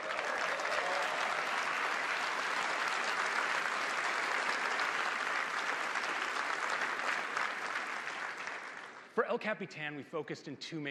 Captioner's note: applause